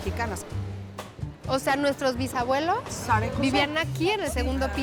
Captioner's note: speaking Spanish